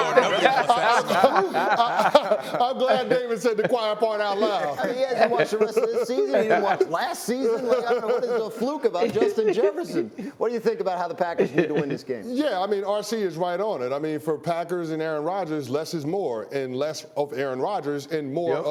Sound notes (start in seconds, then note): 5.7 laughter